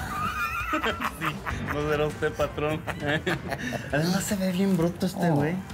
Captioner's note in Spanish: risas